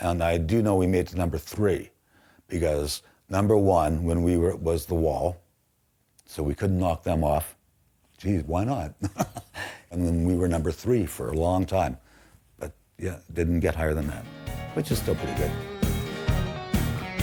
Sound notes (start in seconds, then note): 9.0 laughing